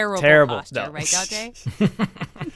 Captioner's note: laughing